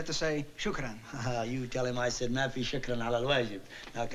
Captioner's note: speaking arabic